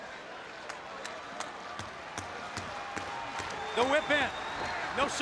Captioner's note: spectator clapping